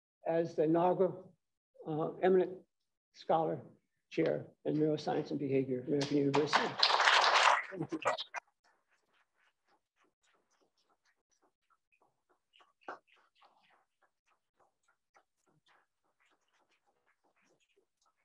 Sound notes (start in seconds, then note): 6.0 applause